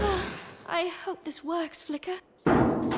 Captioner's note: sighing; squabbling